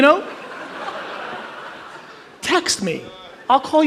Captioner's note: audience laughs